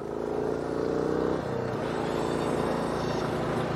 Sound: futuristic Stabilizer Hydraulics Whirring When Driving

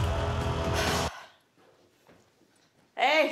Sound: sighs

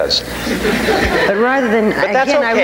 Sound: audience laughing

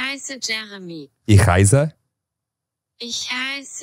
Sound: automated voice speaking German; speaking German; automated voice speaking German

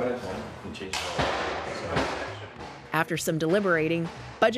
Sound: banging

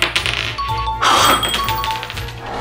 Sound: air blows and coin clatters; blows and coin clatters; chimes

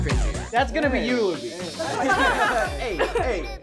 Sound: all laugh

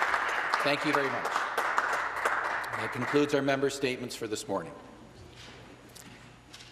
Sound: some Applause

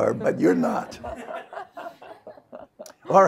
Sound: audience laughs

